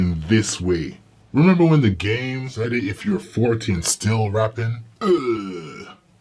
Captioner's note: ugh